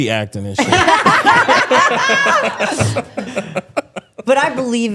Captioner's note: all laughing